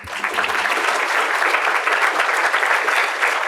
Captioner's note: applause